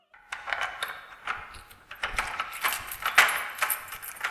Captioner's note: lock clanking